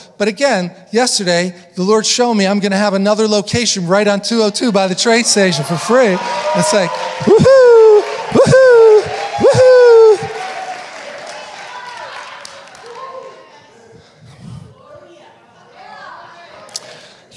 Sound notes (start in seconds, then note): 6.2 audience cheering